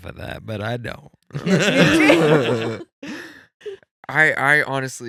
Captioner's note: laughing